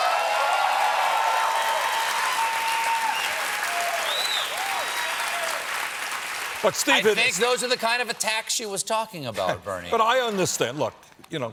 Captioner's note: cheers and applause